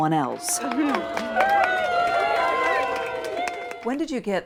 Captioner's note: people cheering